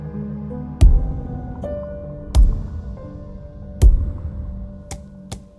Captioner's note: hammering sounds